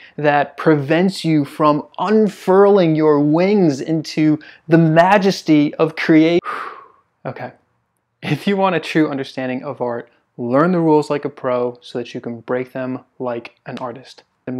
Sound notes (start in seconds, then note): 6.4 exhales